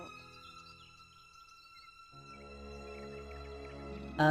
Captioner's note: silence except for birbs